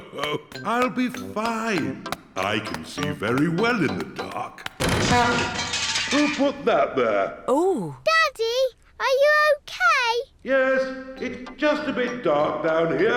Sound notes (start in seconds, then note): 0.0 laughs; 4.7 crashing